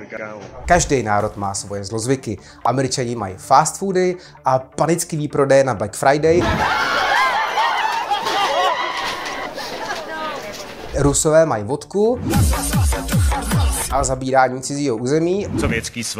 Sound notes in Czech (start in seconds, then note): 8.3 Potlesk